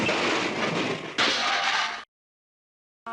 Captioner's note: crash; donk